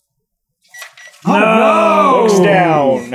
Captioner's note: gentle beeping